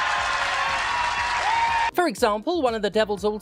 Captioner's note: crowd cheers